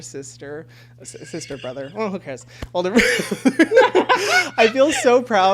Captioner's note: laughs